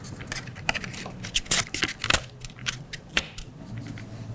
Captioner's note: paper rustling